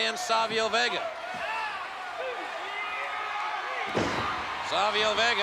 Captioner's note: spectators cheering